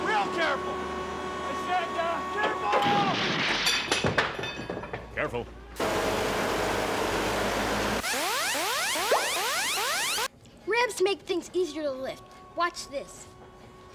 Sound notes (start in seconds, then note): 4.4 <i> wood and metal crashing</i>